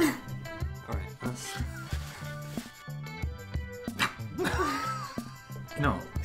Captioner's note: laughs; laughs